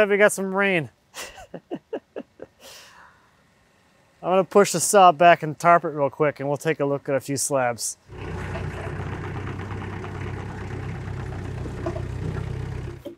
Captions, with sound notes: Looks like we got some rain. (laughing) I'm gonna push the saw back and tarp real quick, and we'll take a look at a few slabs. (engine rumbling)